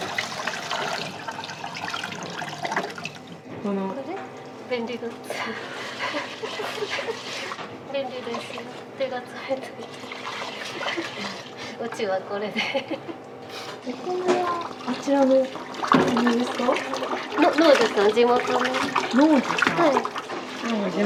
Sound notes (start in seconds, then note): 5.7 laughs